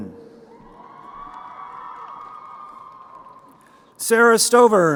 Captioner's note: crowd cheering